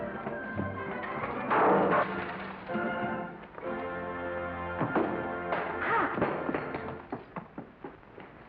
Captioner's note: breaking sounds